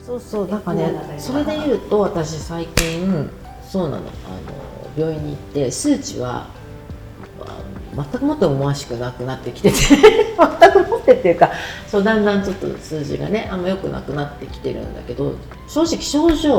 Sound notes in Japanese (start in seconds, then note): 9.7 笑い